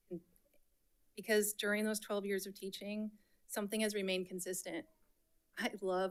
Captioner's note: none